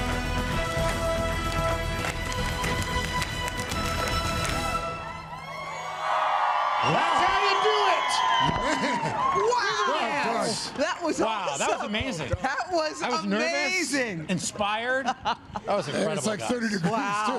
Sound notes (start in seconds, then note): 9.3 cheers and applause